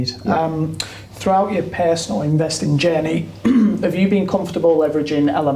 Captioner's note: clears throat